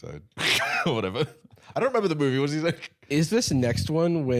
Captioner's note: laughs